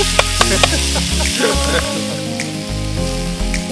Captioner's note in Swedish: skrattar